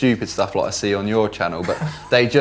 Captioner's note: laughing